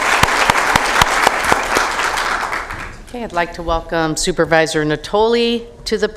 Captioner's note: applause